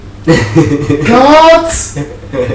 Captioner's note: laughs